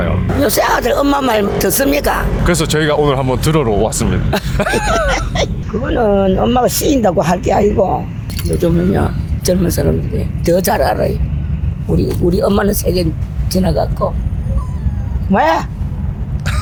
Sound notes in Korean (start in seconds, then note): 4.3 웃음; 14.4 강아지의 신음; 16.4 웃음